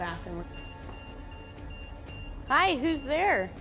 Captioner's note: EMF beeping